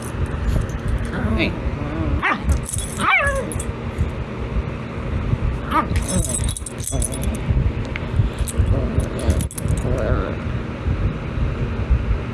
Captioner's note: Caprice's growling stops